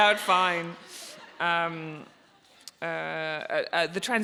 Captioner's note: audience laughs